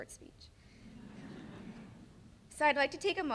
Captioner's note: laughing